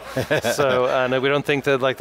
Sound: laughs

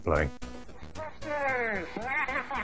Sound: synth laughing; synth Voice

